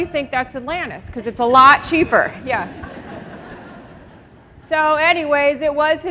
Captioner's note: laughter